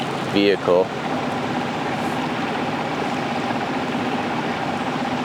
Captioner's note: engine rumbling